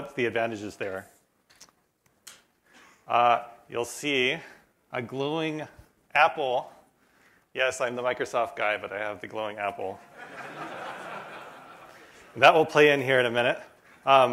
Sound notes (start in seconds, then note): 10.1 laughter